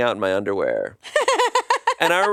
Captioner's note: laughs